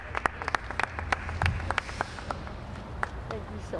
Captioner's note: applause